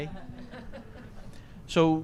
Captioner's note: laughter